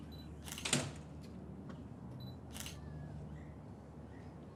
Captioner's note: camera shutter clicking